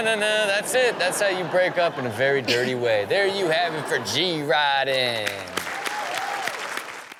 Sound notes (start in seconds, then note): 5.2 crowd cheers